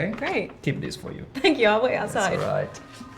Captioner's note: laughs